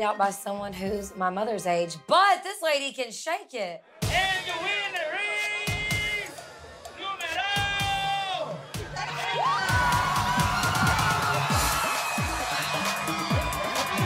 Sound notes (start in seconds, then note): 4.9 speaks foreign language; 9.6 screaming and cheering